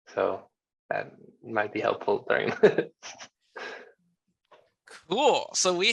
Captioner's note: chuckles